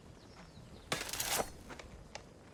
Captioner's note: sword sliding out